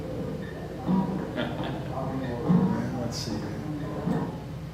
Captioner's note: chuckles